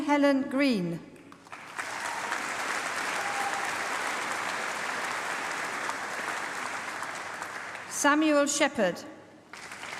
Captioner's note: applause; applause